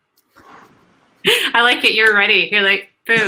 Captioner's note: laughs